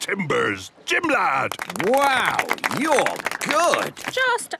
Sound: clapping

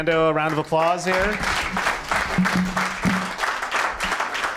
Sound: applause

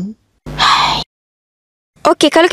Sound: sigh

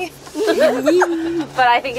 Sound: laughing

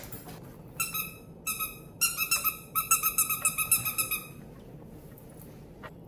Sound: squeaky starfish toy

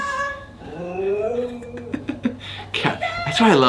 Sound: dog howling

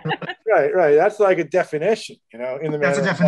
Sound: laughs

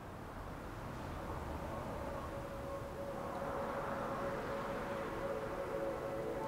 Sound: gentle music; wind whistling

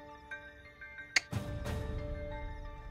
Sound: clicks tongue

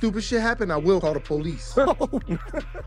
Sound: group laughs

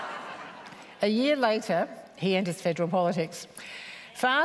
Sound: laughter

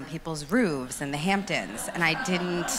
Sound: audience laughs

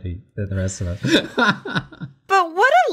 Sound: laughs

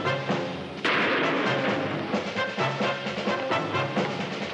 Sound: gun firing

